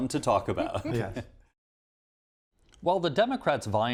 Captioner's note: soft laughter